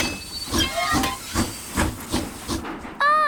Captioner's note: train chugs